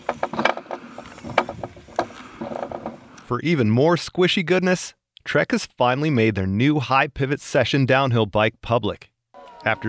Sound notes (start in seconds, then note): 3.4 voiceover